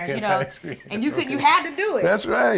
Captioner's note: Glynn chuckles